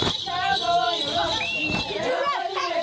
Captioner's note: foot stomping